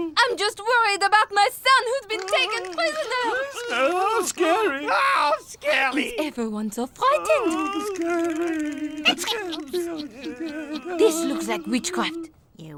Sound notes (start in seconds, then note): 9.3 witch cackles